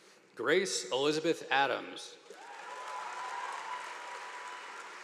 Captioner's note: crowd cheering